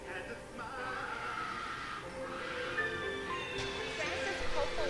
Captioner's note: faint screaming; glass breaking